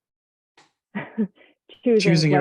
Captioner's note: chuckles